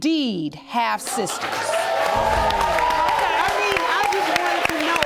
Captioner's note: audience applauding